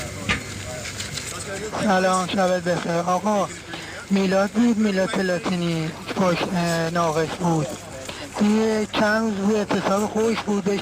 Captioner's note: foreign language